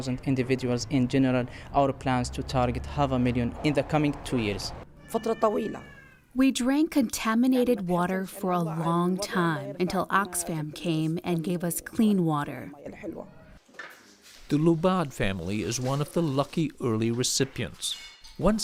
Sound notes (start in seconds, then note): 6.2 through translator